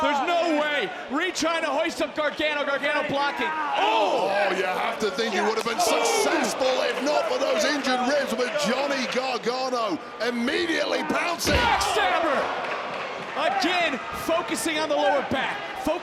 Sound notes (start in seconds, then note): 11.5 body thudding; 11.5 crowd cheering